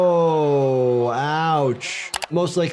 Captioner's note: video clicks